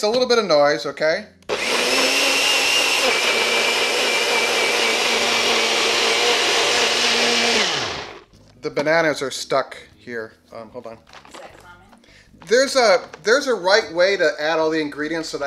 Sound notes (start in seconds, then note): 1.4 blender blending